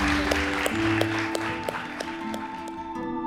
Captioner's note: applause; dramatic music crescendo